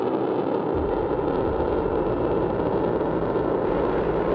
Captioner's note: boosters firing